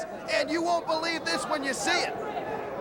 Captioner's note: crowd chatter